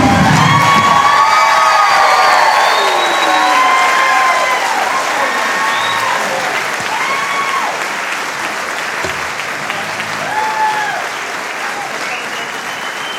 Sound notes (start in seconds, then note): 2.9 cheering and applause